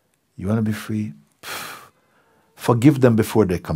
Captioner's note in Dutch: adem snel uit